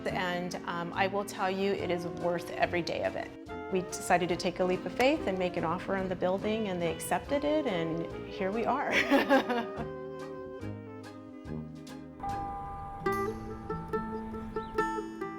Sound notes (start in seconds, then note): 8.9 laughs; 11.3 gentle music